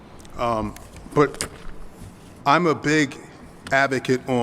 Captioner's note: none